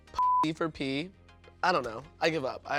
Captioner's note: beep